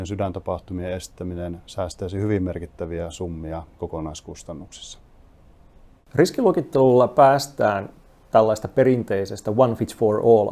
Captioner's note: speaking in foreign language